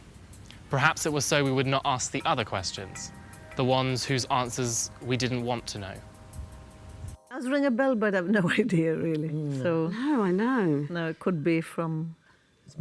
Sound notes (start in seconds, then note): 9.8 laughs